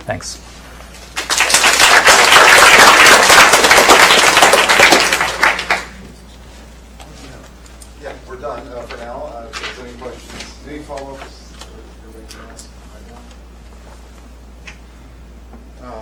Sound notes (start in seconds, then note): 1.1 applause